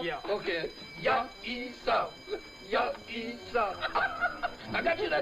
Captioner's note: speaking in foreign language